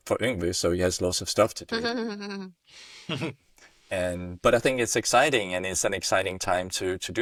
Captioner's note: laughter